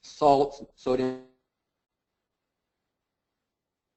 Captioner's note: audio cuts out - technical difficulties